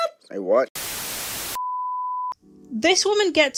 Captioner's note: static